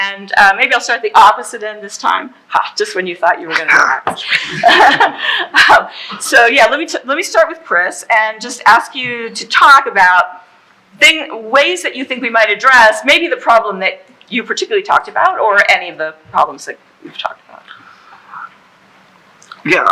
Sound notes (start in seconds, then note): 4.3 laughing